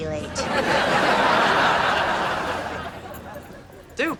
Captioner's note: audience laughter